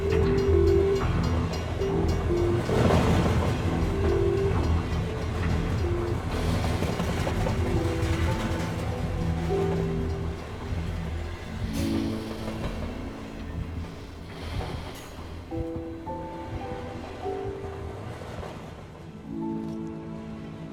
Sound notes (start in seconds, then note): 2.7 train bell clanging